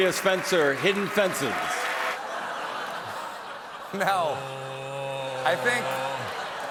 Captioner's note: laughter